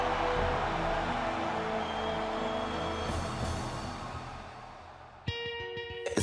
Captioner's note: cheers & applause